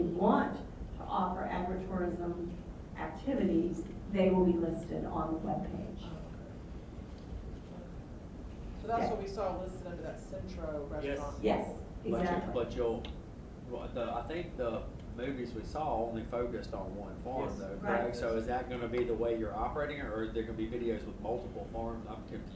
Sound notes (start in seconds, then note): 9.5 voiceover; 15.2 voiceover; 19.1 voiceover